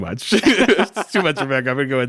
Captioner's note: both laugh